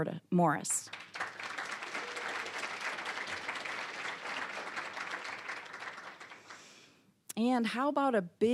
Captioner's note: applause